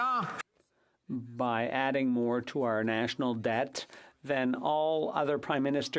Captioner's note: some Applause